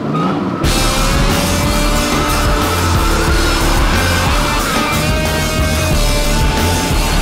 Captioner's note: engines racing and rock music